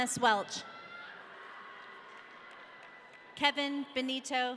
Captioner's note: audience cheering